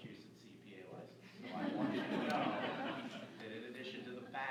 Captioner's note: laughter